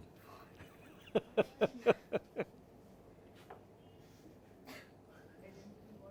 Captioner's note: laughing and small talk